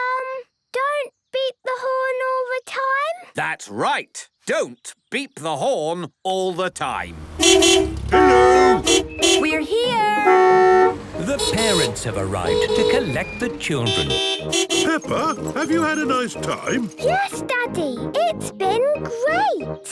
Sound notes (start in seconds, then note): 6.8 beeping